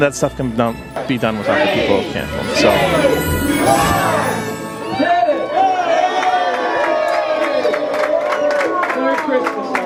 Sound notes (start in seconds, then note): 6.1 applause